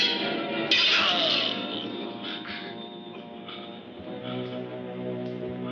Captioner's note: groan